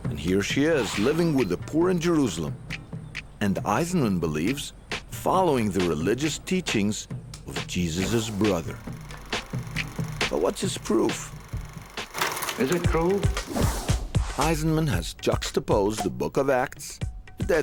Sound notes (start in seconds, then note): 11.7 tape rolling; 13.5 upbeat music